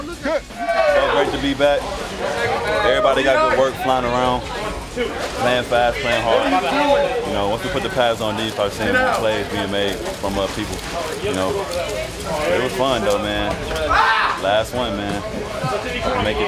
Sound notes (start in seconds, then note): 0.8 cheering; 13.6 man yells